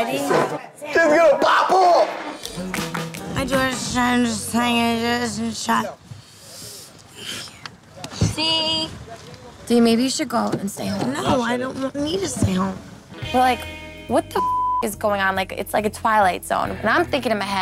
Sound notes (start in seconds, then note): 14.3 beep